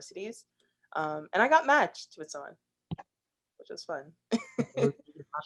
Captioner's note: laughs